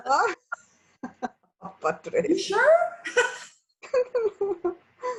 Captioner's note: laughs